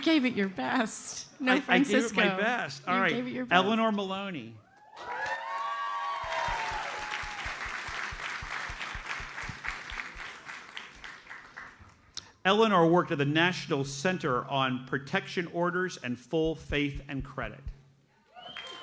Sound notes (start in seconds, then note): 6.3 audience cheers and applauds